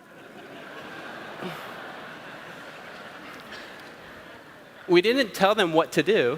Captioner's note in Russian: Смех